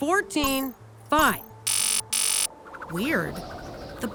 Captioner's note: box buzzes